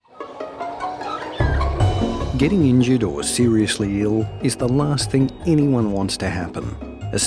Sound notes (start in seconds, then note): 0.1 scooter humming; 0.1 bright music